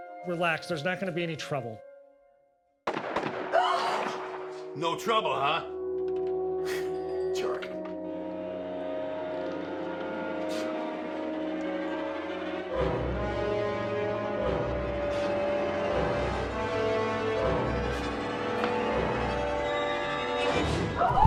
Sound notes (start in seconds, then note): 2.8 gunshots popping; 2.9 Eleanor gasps; 6.6 scoffs; 8.4 dramatic music; 17.2 dramatic music continues